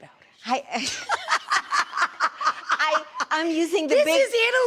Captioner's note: laughing